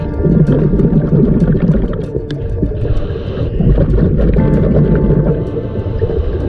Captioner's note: water bubbling; diver breathing